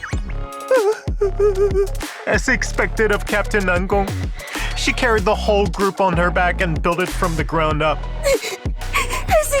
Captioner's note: sobbing